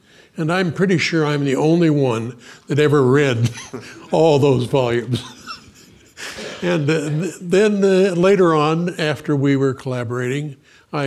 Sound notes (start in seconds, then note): 3.4 laughs